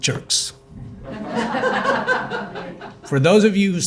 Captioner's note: audience laughing